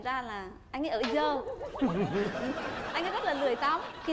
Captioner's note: laugh